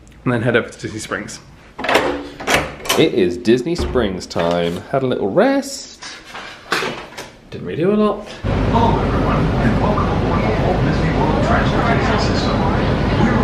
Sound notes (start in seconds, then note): 2.4 door handle clicks